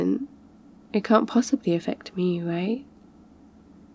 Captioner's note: sarcastic